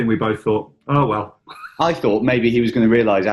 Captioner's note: chuckling